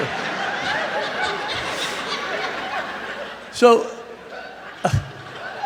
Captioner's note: laughter